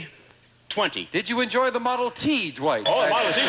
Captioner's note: audience laughing